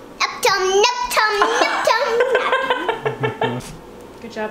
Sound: babbling; laughing

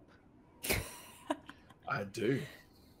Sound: laughs

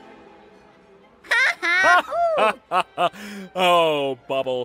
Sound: elegant music continues; Bubble and Caine laughing

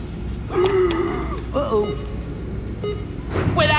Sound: countdown beep continues; gasps

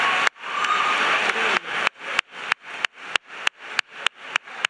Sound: clapping

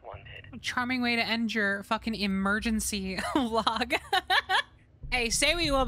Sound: laughter

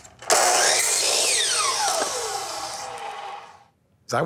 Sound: saw whirring

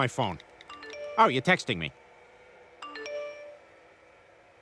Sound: chime

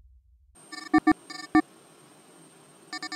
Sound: computer dialing sound; phone line ringing

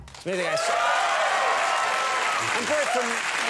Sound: crowd applauds

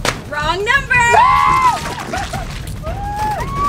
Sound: screams

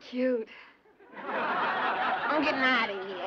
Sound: laughter

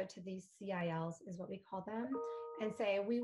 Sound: computer chiming

